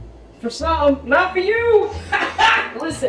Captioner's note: laughs